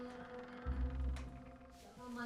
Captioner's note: door creaking